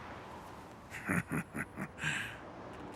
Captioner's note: chuckling